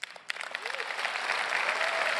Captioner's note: applause